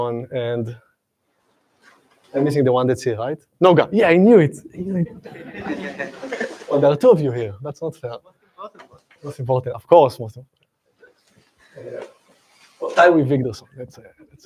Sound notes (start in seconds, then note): 5.2 laughter